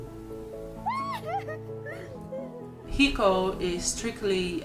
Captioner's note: woman laughing